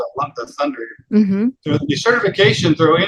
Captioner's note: loud thunder in background